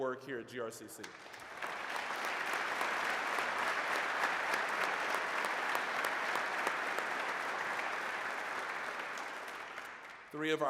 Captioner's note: applause